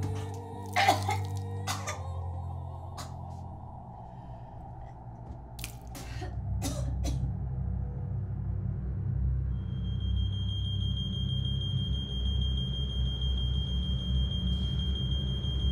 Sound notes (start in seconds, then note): 1.6 nikki coughing; 9.5 beeps